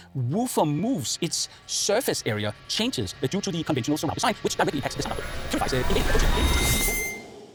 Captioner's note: sound speeding up like crazy